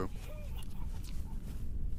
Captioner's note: quiet laughing